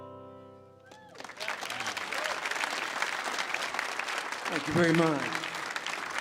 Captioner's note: audience cheers and applauds